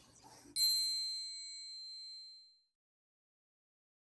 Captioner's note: bell chimes gently